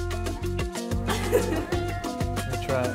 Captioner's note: festive music; laughs